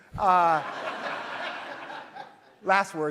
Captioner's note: audience laughs